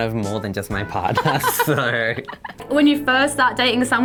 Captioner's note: laughing